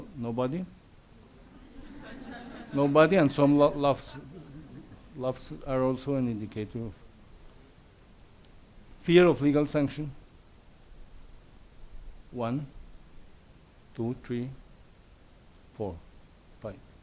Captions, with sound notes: Nobody? (audience laughs) Nobody and some laughs. Laughs are also an indicator of... Fear of legal sanction? One, two, three, four, five.